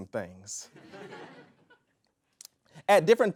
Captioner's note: audience laughs